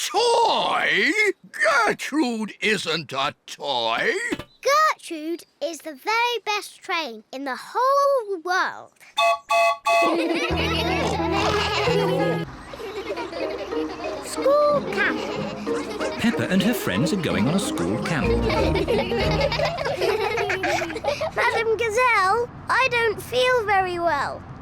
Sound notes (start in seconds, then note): 9.1 toots horn; 10.0 all laugh; 12.4 all giggling; 18.4 all giggle